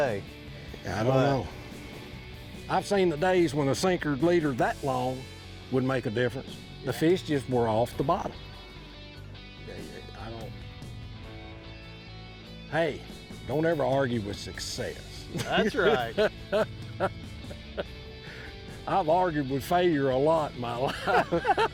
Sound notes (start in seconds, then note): 15.3 laughs; 20.8 laugh